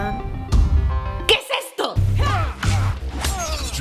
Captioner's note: screaming